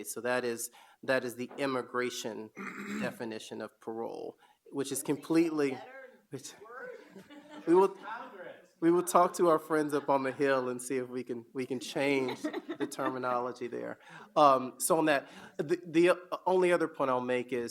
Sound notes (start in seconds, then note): 6.7 audience laugh